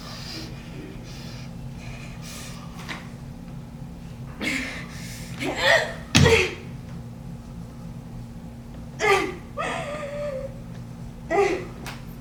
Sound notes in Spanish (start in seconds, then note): 4.2 Gruñidos; 9.6 Llantos